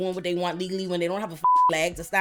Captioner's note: beep